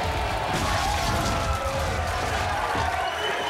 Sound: audience cheering; wall smashing

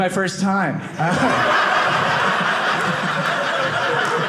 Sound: audience laughing

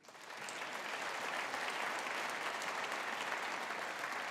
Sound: audience applauding

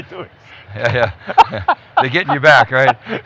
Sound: laughing

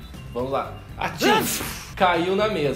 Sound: sneezes

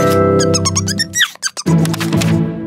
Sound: little Yellow Chickadee chirps

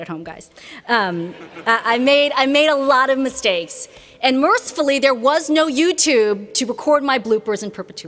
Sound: laughter

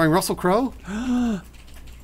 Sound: gasps

